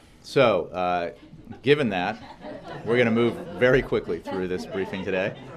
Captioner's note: laughter